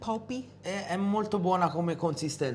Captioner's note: speaking italian